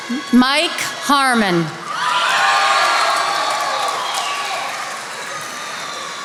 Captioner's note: attendees applauding